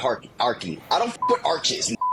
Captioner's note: beep